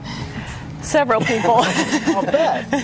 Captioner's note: laughs